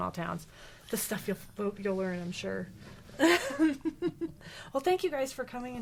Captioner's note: laughing